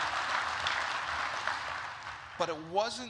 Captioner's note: applause